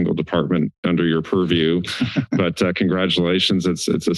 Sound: laughter

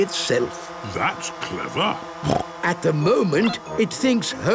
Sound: snorting

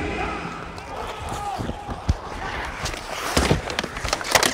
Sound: hockey sticks clashing

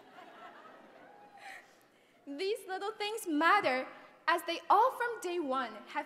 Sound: laugh

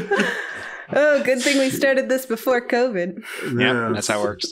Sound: laughing

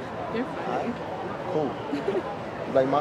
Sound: laughter

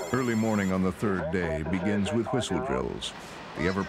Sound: voiceover

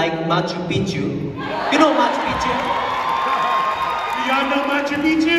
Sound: loud cheers

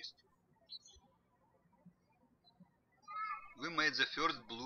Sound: birds chirping

